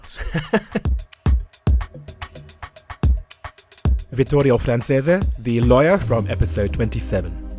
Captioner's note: voiceover